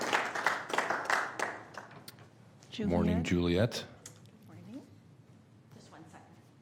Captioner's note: applause